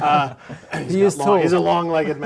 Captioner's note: laughing